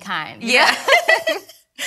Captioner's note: ladies laughing